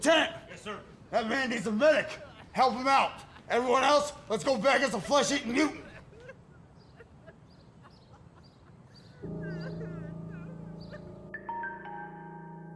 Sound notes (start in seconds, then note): 6.5 Floyd sobbing; 9.4 suspenseful music